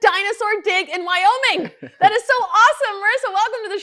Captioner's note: man laughing